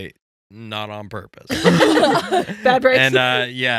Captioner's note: laughing